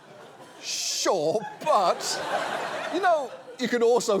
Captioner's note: audience laughs